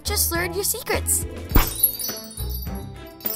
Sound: magical chimes; poof; poof

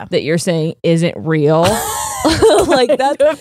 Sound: both laughing

